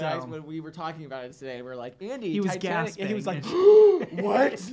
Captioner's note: gasp